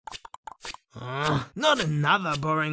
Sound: grunts

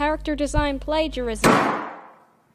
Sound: slam

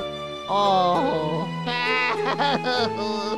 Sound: crying

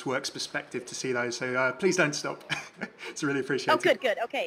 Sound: laughs

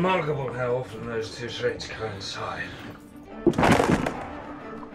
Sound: wood cracks loudly

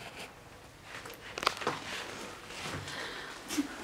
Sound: footsteps and breathing

